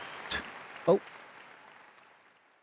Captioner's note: Gia spits